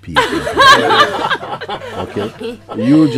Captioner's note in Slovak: Smiech